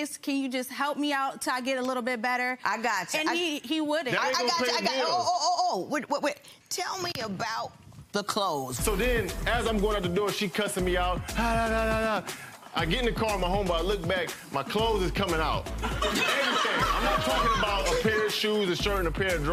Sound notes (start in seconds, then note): 8.8 upbeat music; 15.8 audience laughing